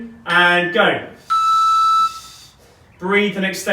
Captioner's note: beeping